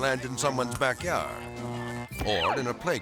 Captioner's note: power lines buzzing